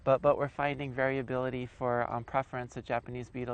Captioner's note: voiceover